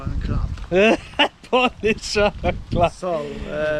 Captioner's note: laughter